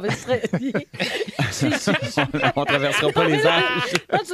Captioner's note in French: rires